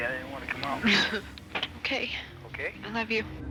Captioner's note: chuckling nervously